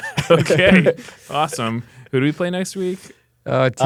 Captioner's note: laughs